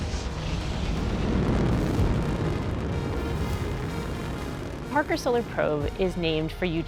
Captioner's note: engine roaring